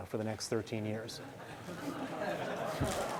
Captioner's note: laughing